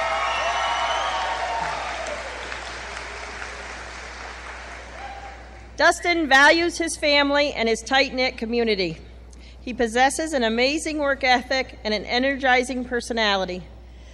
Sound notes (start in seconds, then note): 0.0 cheering